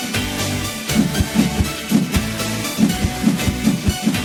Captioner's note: air whooshing